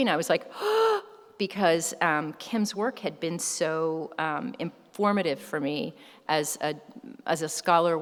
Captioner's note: gasps